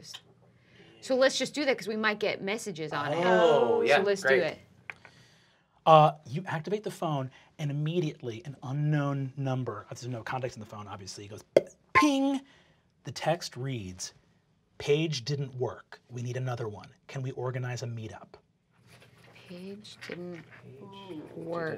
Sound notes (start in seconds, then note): 10.9 imitates ringtone